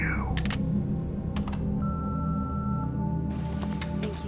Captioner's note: clicks and beeps